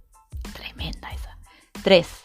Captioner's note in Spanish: susurra